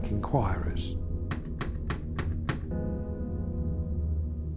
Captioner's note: knocking